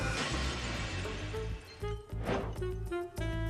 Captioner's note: crash